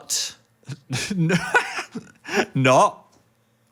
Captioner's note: laughs